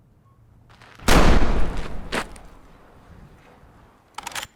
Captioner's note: gunshot